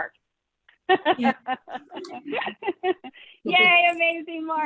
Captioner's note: chuckling